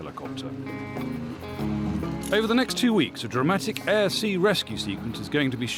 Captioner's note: none